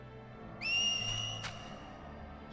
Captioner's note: distant whistling